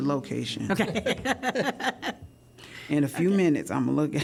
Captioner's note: laughter